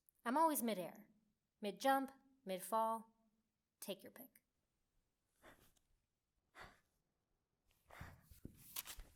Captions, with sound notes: I'm always mid-air. Mid-jump, mid-fall. Take your pick. [sharp breaths]